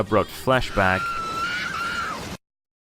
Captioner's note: screams in Japanese; silence